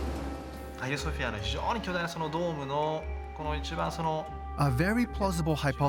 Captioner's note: speaking Japanese